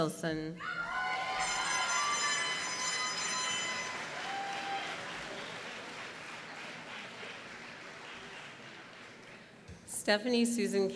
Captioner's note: applause